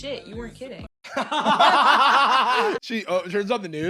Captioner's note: all laughing